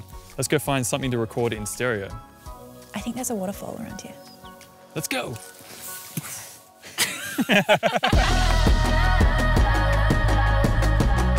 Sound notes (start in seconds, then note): 6.9 laughing; 8.6 upbeat music